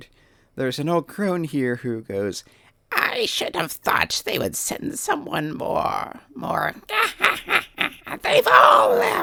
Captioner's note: cronish laughter